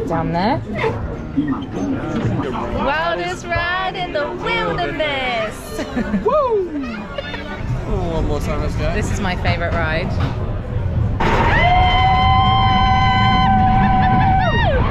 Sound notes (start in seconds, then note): 3.0 in Unison; 5.7 laughing; 11.5 both screaming